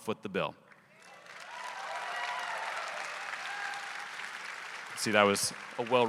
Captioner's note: audience applauding; audience cheering